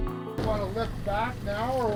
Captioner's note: winch whirring